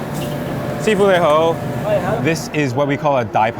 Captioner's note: speaking in foreign language